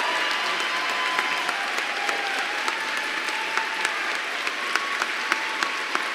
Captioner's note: applause